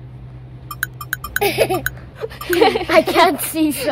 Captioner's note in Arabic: الأطفال يضحكون